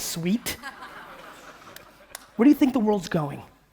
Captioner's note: audience laughing